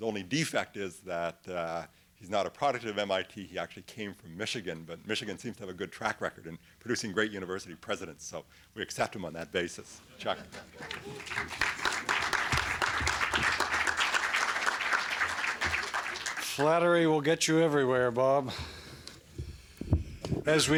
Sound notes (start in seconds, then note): 10.7 applause